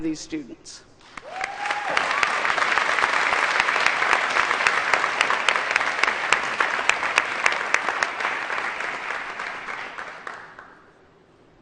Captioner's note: applause